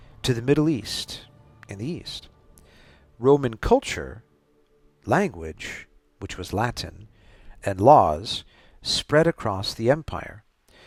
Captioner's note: Latin